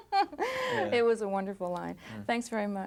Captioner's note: reporter laughing